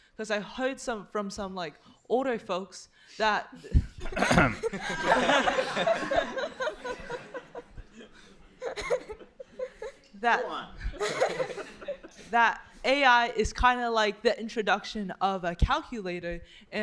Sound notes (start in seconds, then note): 3.7 laughter; 4.1 clears throat